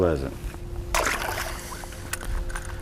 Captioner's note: splash